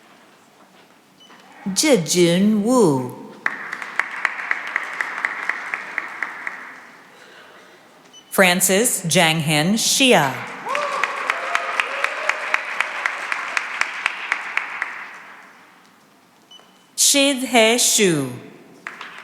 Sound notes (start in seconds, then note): 3.3 applause; 10.4 cheering and applause; 18.8 applause